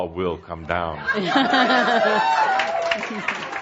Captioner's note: more laughter and audience applause